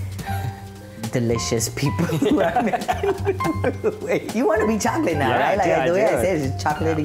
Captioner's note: laughs